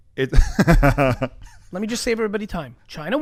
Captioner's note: laughs